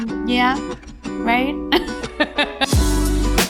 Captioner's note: laughs; upbeat jazz music